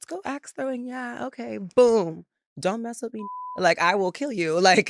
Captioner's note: beep